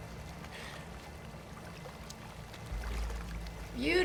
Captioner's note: splashing